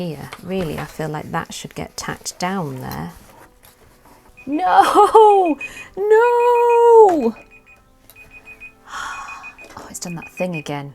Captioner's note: alarm beeping